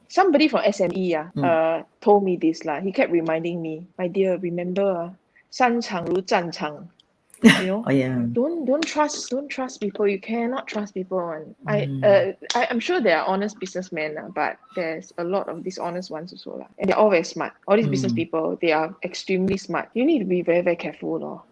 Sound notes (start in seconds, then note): 5.8 foreign language being spoken; 7.4 chuckles